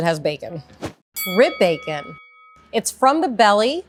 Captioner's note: bell rings